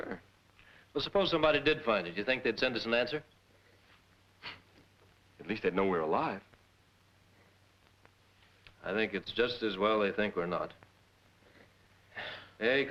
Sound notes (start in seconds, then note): 4.9 scoffs